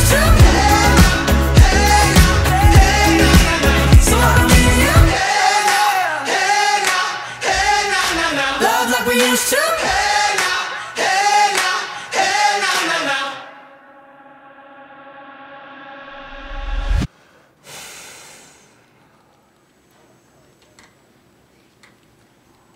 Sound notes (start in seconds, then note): 16.7 music stops; 17.1 sighs deeply